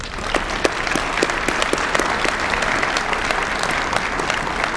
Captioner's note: applause